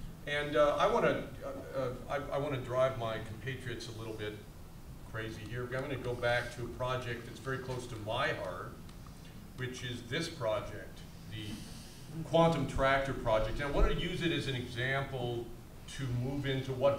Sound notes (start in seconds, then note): none